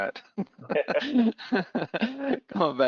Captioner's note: laughs